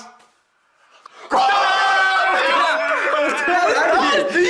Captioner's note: tenor singing; shouting